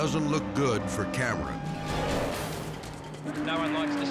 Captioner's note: dramatic air whoosh; sirens blaring